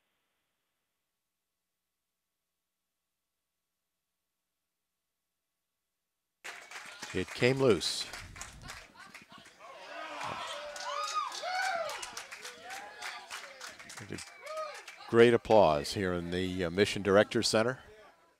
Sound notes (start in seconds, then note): 6.9 clapping, cheers